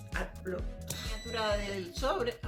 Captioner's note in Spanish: sonido: piiii